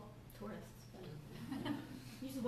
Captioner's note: laughter